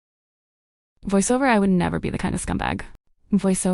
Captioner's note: voiceover